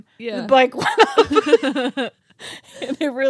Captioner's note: laughing